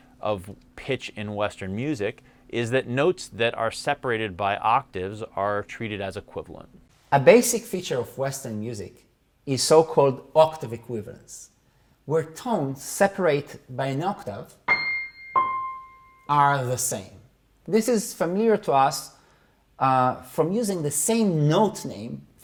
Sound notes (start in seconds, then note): 14.7 plays tones